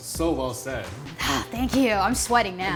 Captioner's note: claps hands